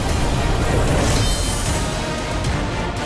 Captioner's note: sword clanging; soaring music playing